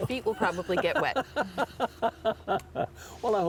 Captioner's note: laughs